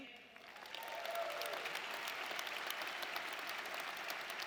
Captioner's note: audience applauding